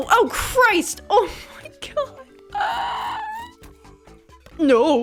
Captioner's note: struggle sounds